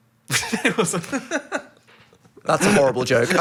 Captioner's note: laughs